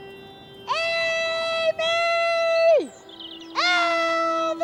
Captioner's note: birds twittering